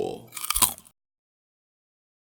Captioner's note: Crunch